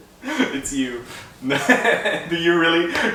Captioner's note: laughs